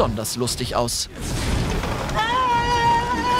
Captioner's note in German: Schrei